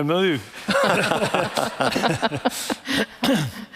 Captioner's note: all laughing